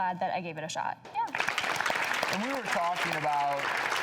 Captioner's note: audience applauds